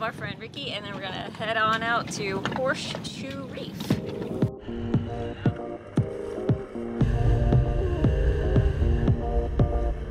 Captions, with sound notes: friend rikki and then we're gonna head on out to horseshoe reef (dinghy motor running)